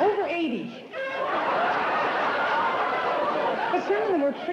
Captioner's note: laughter